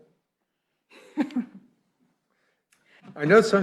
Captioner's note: chuckling